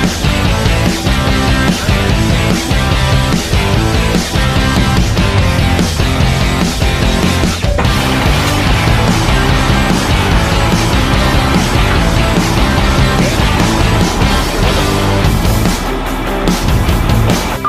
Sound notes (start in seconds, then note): 8.0 elevator whirs; 14.9 driving rock music continues